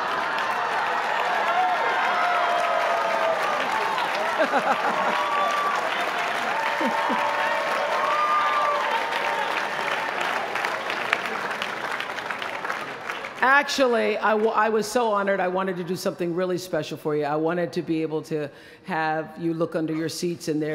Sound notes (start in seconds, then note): 0.1 applause; 4.1 chuckling